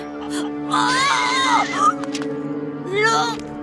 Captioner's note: Ferny yells